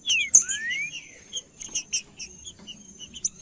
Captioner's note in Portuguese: trinca ferro cantando